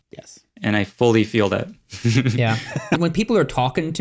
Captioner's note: all chuckle